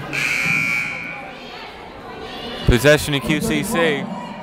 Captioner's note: buzzer blaring